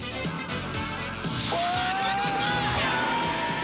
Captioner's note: screams